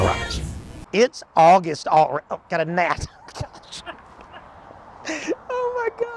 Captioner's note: laughs